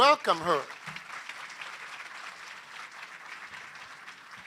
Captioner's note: applause